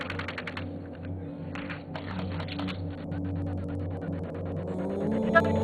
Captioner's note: gunfire; tense music; indistinct shouting